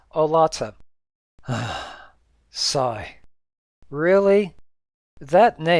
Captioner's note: sigh